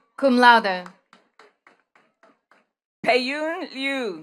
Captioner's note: attendees clapping